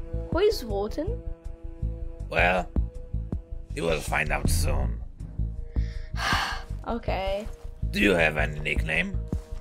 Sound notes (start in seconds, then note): 6.1 sighs